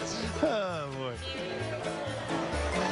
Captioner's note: laughing